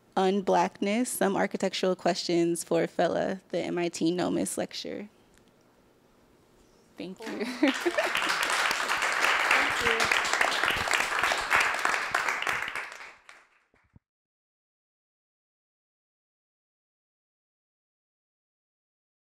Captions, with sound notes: und Blackness, Some Architectural Questions for Fela, the MIT NOMAS lecture. Thank you. [APPLAUSE]